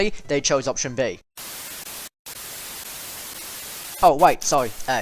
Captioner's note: static